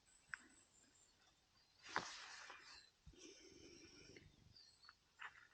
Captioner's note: birds chirping